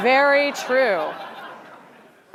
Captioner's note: laughter